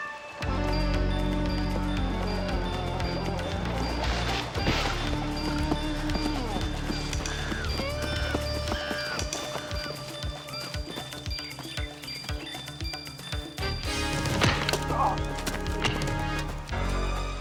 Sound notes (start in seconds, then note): 1.0 dramatic music; 6.1 animals squealing; 14.5 man groaning; 14.5 skin smacking